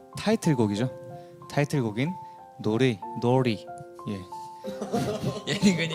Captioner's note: weird pronunciation